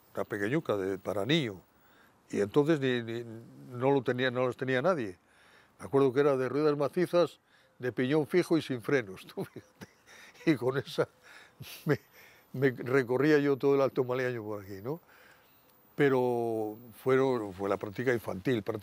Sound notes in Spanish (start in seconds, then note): 9.3 Ríe